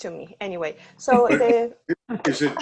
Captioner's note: laughter